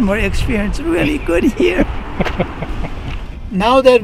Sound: laughing

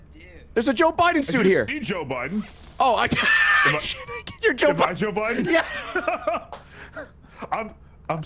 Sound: laughs

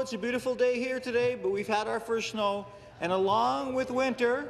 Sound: laughter

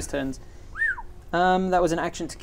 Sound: whistles

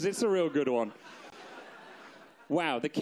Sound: audience laughs

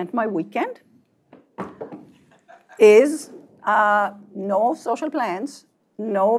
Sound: laugh

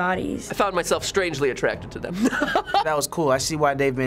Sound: laughs

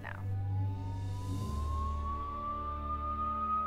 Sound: siren blares

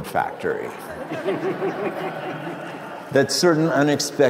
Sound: crowd laughs

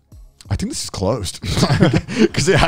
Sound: laughing

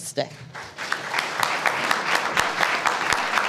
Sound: applause

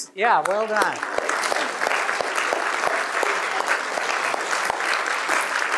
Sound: applause

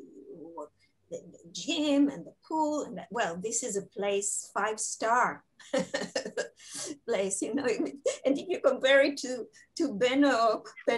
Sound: laughing

